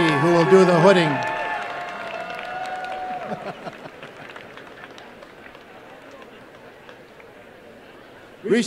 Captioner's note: applause and cheering